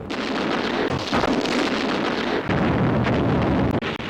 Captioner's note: explosions booming